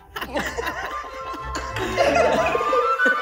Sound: sharp laughter; echoing

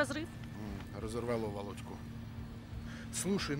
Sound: with irony

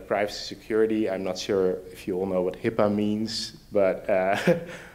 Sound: laughs

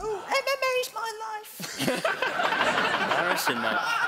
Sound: laughing

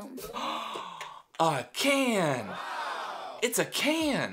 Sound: gasps

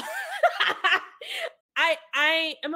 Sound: cackles

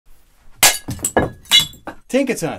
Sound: ceramic breaking

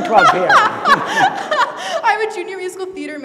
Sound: laughs

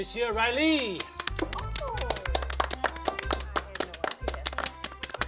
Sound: group clapping

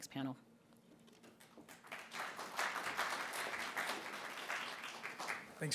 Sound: applause

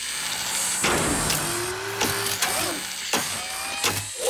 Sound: machine whirring

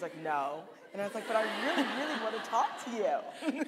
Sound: audience laughing

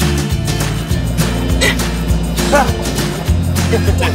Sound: gasp

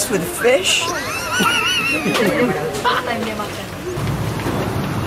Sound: laughs

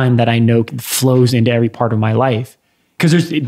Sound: none

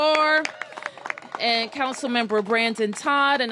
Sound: applause

